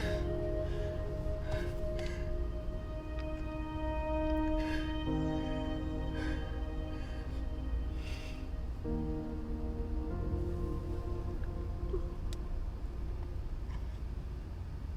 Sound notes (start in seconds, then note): 0.3 dramatic music continues; 9.2 Abby sobbing; 9.2 dramatic music continues